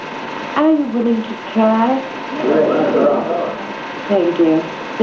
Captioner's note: crowd murmurs in agreement